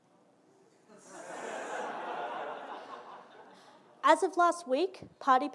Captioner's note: audience laughing